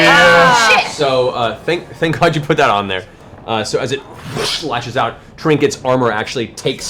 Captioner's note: cheering; whoosh